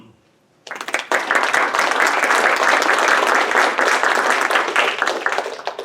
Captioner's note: audience applauding